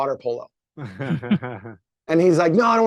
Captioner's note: laughing